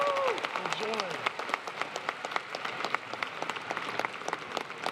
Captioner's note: applause